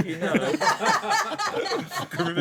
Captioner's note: laughter